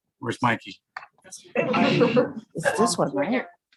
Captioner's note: laugh